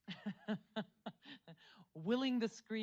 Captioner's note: laughs